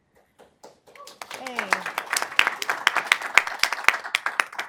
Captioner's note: audience clapping